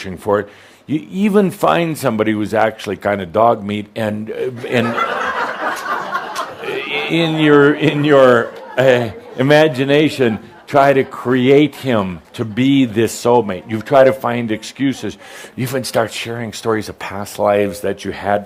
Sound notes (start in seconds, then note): 4.6 laughter